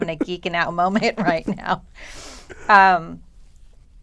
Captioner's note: laughter